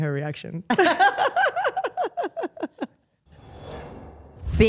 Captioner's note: Steph laughs; exciting notes play